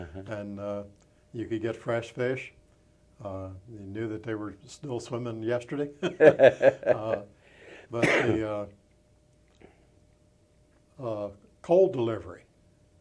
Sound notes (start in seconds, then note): 6.0 chuckles